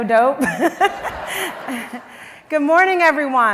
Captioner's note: laughs